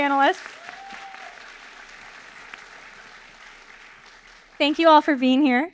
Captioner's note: audience applauding